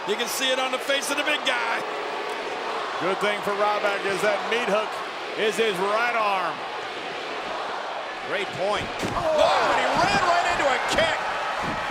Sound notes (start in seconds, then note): 6.6 audience chattering